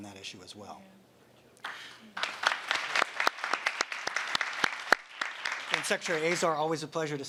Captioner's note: applause